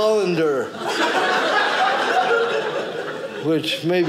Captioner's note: audience laughing